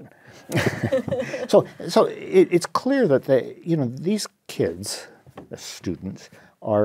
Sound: laugh

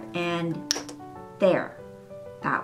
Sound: pop!

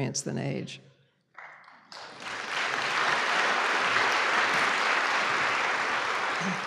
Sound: applause

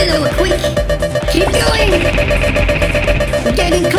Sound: drone laser blasts

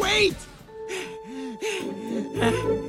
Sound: panting

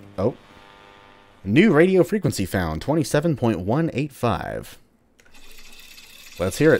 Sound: radio static; radio cranking

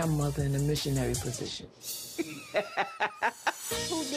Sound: laughs

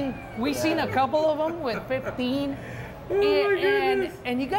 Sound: host laughs

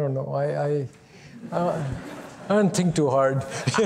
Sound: laughter

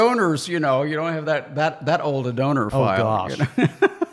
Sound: laughs

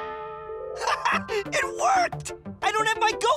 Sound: laughs

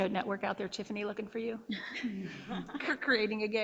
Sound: board laughing

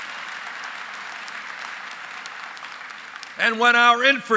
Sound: applause

